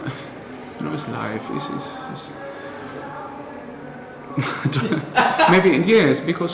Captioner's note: laughter